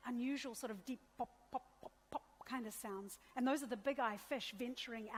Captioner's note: imitates popping